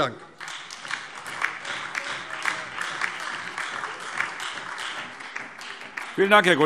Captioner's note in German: Beifall DIE LINKE, SPD und Freie Demokraten